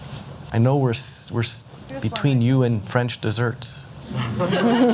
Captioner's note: laugher